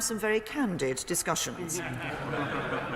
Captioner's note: laughter